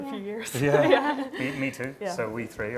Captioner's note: laughing